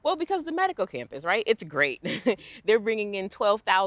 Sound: laughs

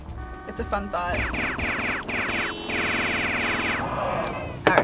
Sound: rapid gunfire, honking

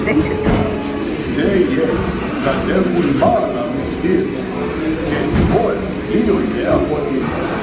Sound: cast Member speaking in foreign language

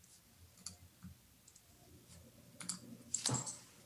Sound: mouse clicks

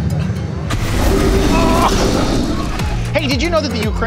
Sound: fire blazing

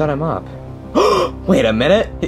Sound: Junior gasping

